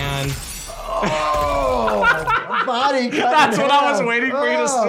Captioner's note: laughs